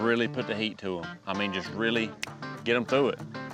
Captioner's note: snaps fingers